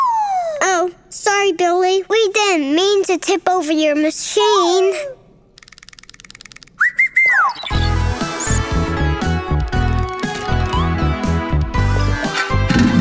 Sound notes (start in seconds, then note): 5.6 chirping; 7.3 futuristic music; 12.8 mechanical sounds